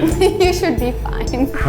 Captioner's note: lady laughs